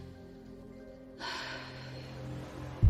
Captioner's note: exhales